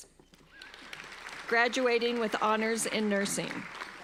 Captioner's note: applauding